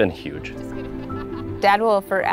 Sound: laughing

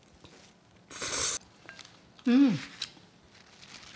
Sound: slurping

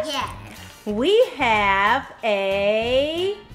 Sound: voiceover

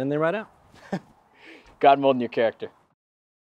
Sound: laughs

